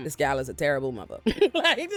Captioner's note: laughs